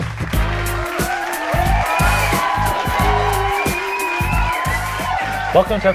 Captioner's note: applause